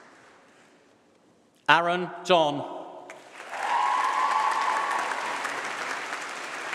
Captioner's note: applause